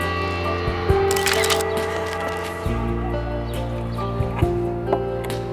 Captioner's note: camera clickng